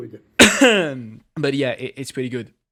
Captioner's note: coughs in english